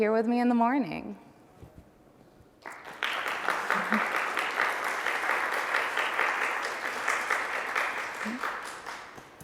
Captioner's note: applause